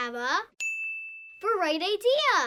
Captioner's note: ding